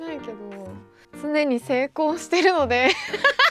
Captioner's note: laughs